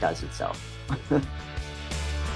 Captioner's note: chuckles